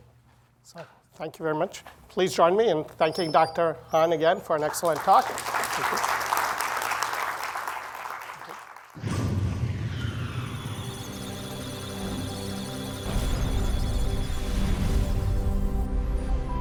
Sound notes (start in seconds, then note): 6.9 applause; 10.5 electrical sounds of data